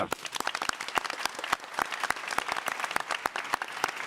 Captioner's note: audience applauding